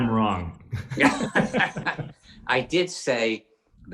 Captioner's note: both laugh